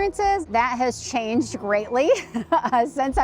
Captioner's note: laughs